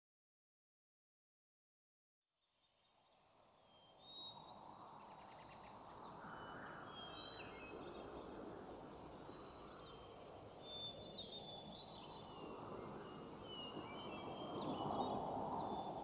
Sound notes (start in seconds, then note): 2.9 birds chirp; 2.9 wind whistles